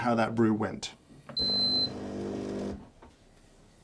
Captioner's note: machine beeps